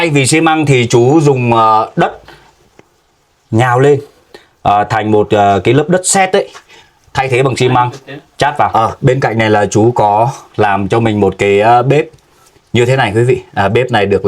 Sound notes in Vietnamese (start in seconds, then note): none